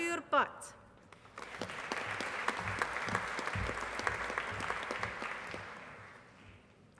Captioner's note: applause